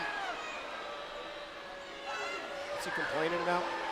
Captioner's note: crowd chatter